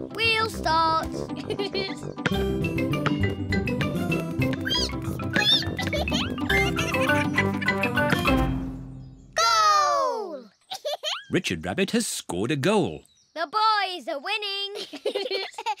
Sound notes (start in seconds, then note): 1.3 laughs; 4.4 squeaking; 10.6 giggles; 14.7 both laugh